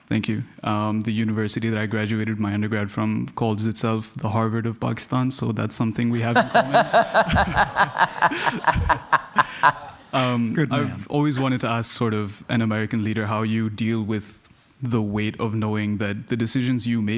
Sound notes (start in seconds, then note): 6.1 laughing